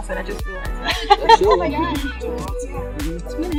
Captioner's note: laughing